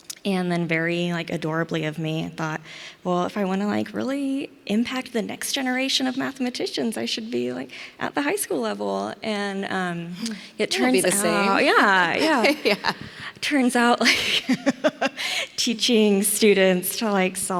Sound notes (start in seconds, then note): 10.7 laughs